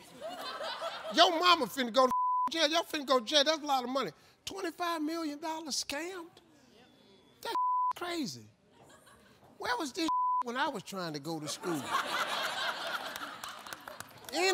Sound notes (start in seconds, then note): 0.0 audience laughs; 2.0 beep; 7.4 beep; 10.0 beep; 11.4 audience laughs